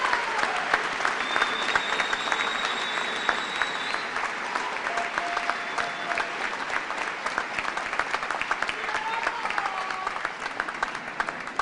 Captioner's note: cheers and applause